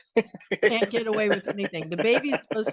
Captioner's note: laughing